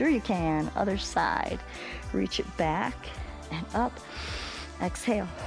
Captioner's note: exhales; inhales; exhales